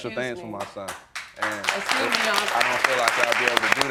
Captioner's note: audience applauds